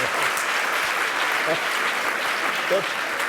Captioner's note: applause